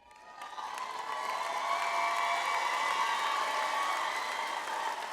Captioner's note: audience applauds